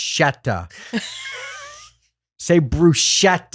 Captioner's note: laughing